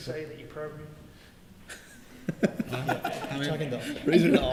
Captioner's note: laughter